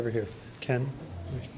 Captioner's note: whispering